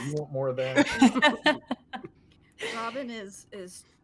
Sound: laughter

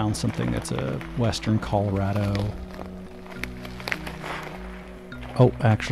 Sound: footsteps crunching

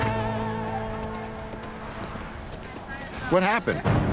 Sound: horse trotting

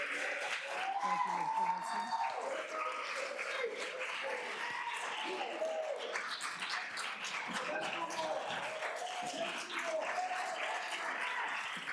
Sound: cheers and applause

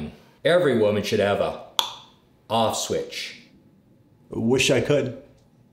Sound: tongue clicks

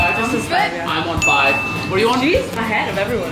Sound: ringing sound

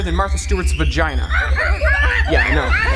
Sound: monkey laughter

